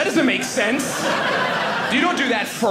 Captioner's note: audience laughing